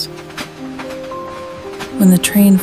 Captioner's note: the sound of the train